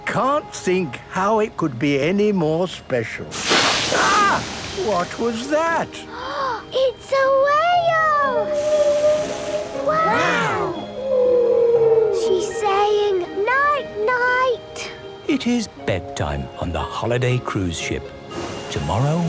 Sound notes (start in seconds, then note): 8.3 whale calling; 8.5 gasps; 11.8 whale calling